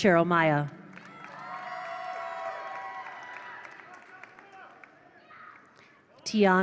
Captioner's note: attendees cheer; attendees applaud